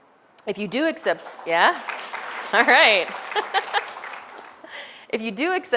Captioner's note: background audience applause sounds; laughter